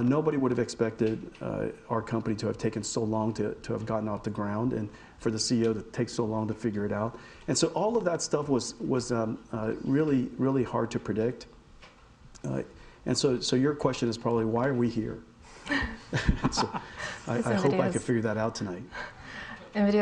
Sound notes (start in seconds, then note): 16.1 audience laughing